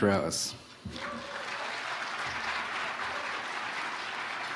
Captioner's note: audience applauding